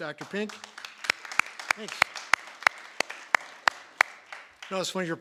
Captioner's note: applause